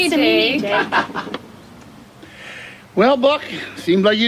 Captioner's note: Jake laughs